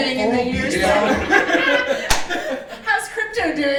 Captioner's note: laughing